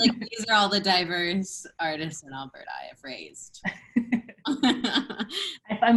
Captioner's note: laughter; laughter